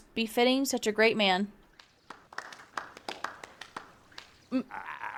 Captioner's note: clapping